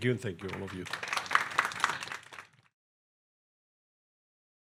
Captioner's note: attendees clapping